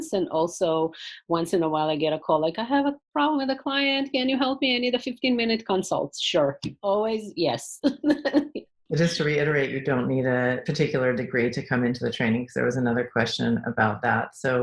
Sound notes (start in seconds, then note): 9.0 laughing